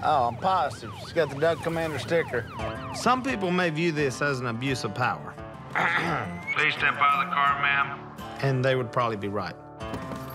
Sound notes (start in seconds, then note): 5.8 clears throat